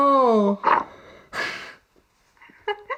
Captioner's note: sigh; laughs